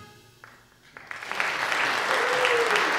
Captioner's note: applause